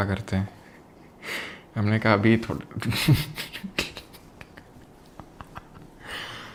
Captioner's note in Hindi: हंसी